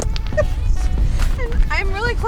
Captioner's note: laughing